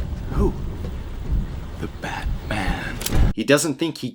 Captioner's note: gun clicks